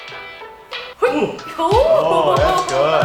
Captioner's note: laughing